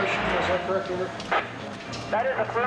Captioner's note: static buzzing